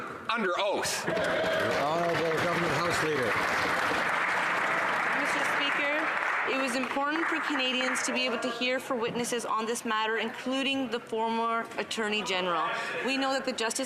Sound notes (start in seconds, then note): 4.2 some Applause